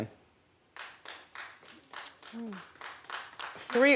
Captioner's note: few people clapping hands